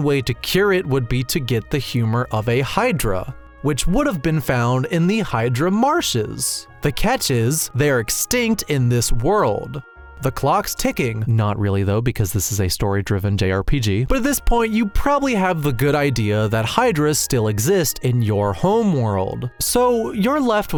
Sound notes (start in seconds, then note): none